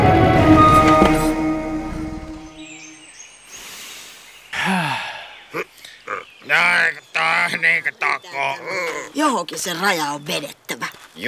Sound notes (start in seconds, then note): 6.0 complaining murmur